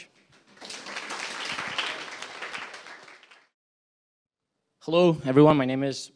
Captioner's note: applause